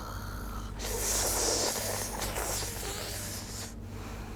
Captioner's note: ssssssssss~